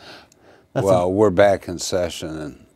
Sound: laughing

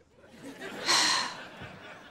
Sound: sighing

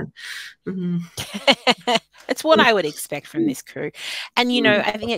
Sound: laughing

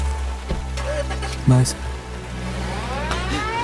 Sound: car engine start

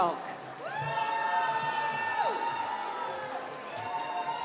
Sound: cheering

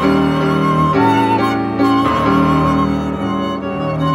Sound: none

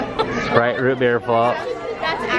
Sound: laughs

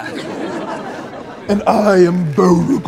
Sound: audience laughs

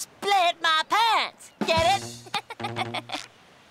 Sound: laughs

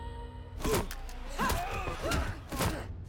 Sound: grunting

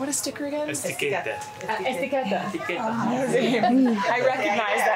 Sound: speaking foreign language

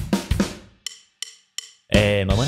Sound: deep voice

